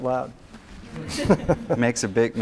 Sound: laughter

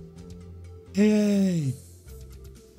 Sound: higher pitched

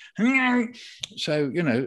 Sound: makes groaning sound

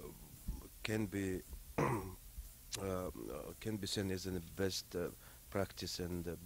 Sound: clears throat

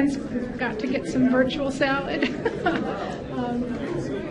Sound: laughs

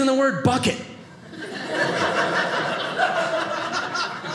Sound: audience laughing

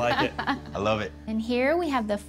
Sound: laughing

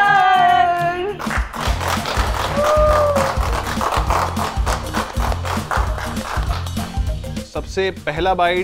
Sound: clapping

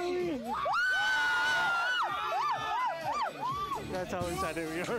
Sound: crowd screams

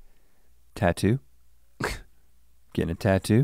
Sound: Link scoffs

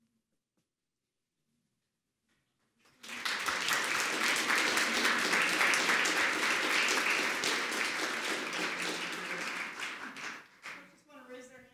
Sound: applause

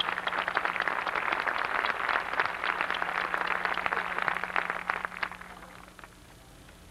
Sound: applause

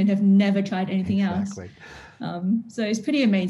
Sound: chuckles

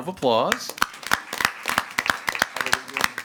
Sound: everyone applauding

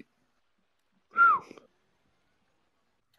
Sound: whistles

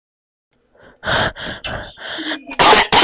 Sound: breathes

